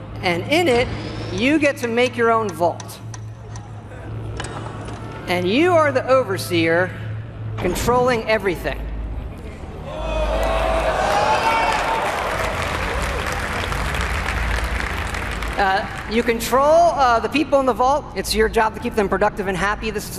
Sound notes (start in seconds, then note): 10.0 crowd cheers and applauds